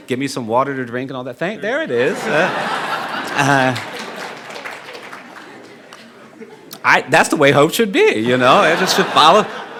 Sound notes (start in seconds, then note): 1.9 audience laughing